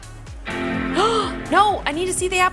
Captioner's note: boot-up tone playing; gasps